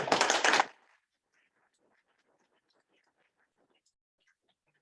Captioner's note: audience clapping